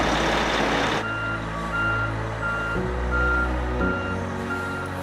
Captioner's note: truck beeping